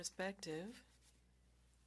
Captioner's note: speaking french